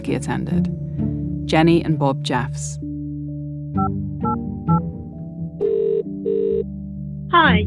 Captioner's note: phone ringing